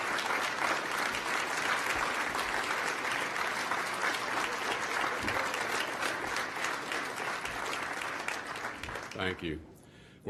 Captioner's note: applause